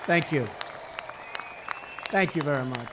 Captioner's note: applause